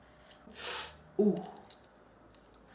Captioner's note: moaning for NO reason